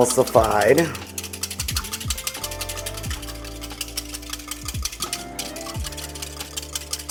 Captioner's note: soft gentle music; glass clinking